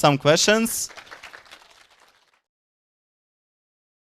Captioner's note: audience applauding